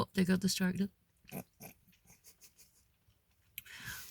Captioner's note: laughing